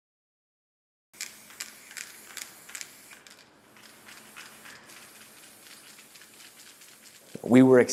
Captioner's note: paint spraying